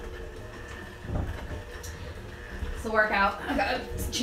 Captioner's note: mixer whirs